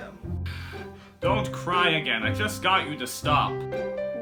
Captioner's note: sniffles; grunts